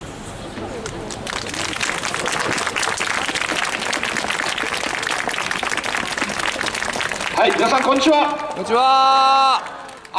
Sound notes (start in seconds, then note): 0.8 clapping